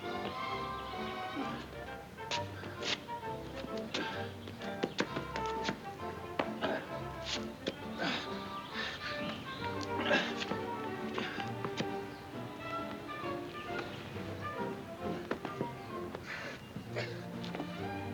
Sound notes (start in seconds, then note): 0.2 birds chirping; 0.2 gentle music; 4.9 birds chirping; 4.9 footsteps plodding; 8.1 Ollie panting; 8.1 birds chirping